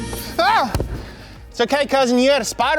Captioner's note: shouting